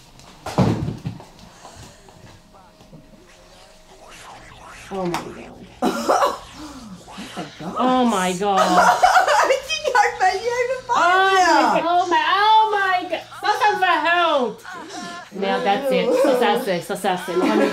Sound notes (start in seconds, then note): 9.5 laughing; 11.5 moaning on TV